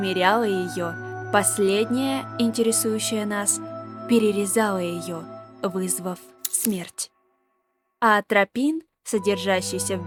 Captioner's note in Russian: чик ножницами